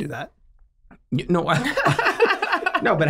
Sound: all laughing

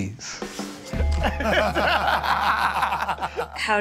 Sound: laughter

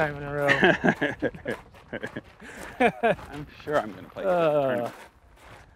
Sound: laughs

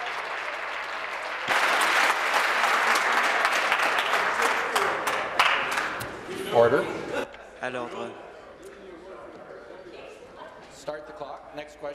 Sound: applause

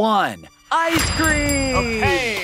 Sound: bell dinging

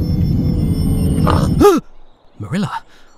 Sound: narrator gasps

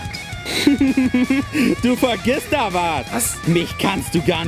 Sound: maniacal laughter

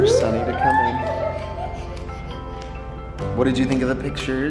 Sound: children excitedly screaming

